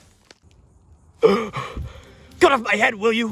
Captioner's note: gasping